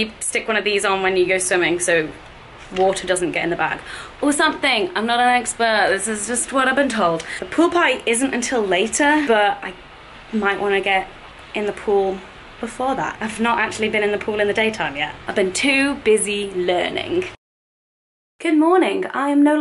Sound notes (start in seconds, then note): none